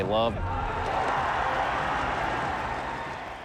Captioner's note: applauding